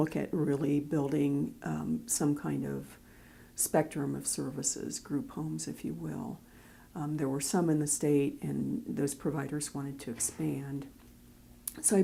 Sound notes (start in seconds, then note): none